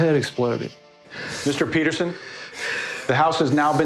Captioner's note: sobbing